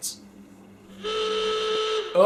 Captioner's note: klaxon